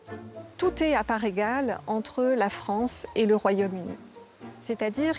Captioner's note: speaking in foreign language